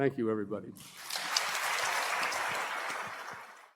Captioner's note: applause